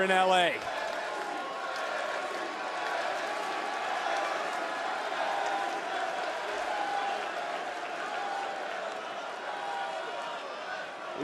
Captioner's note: crowd chants "nxt"